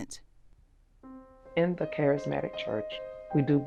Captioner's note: voiceover